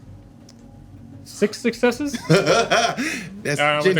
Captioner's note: laughing